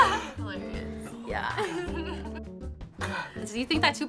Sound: chuckles

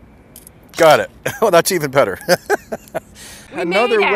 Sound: chuckles

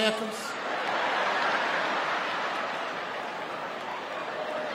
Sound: audience laughing

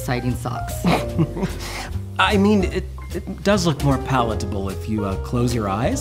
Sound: snickers

